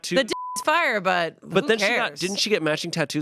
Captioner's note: beep